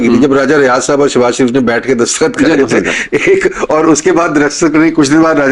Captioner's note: laughter